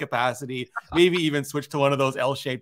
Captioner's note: laughs